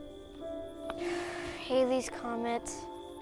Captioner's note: sighs